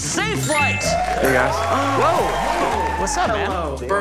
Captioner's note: applause and cheering